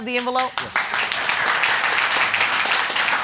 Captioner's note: audience applauding